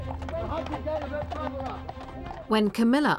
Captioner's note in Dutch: man mompelt